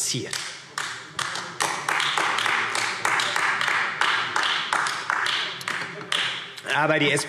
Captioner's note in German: Beifall AfD